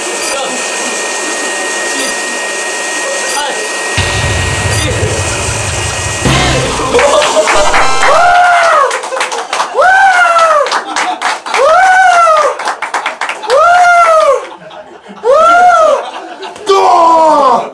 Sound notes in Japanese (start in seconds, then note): 6.8 拍手の音; 7.6 ファンファーレの音; 9.1 拍手の音